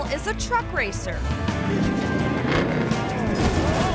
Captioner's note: upbeat music; car engine revving